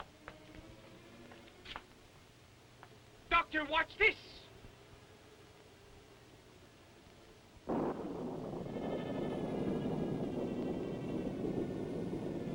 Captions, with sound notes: Doctor, watch this! (thunder rumbling) (suspenseful music)